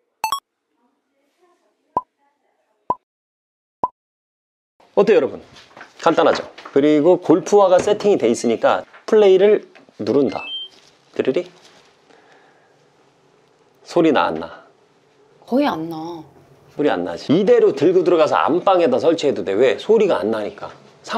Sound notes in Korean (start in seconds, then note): 12.3 고요